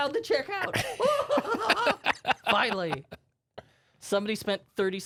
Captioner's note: laughing